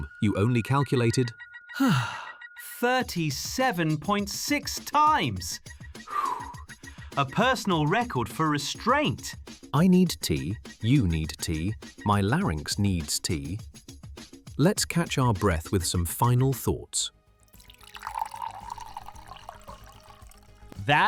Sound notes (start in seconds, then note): 3.0 exhausted; 5.8 wheezing